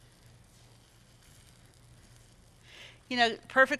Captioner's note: batter sizzling